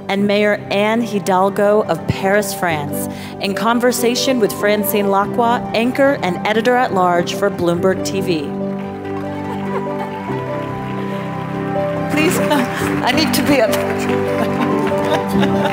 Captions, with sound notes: and Mayor Anne Hidalgo, of Paris, France, in conversation with Francine Lacqua, Anchor and Editor-at-large for Bloomberg TV. (gentle music) (audience claps) - Please, I need to be up. (laughs)